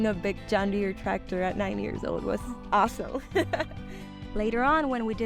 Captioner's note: laughing